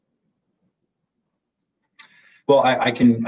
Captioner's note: silence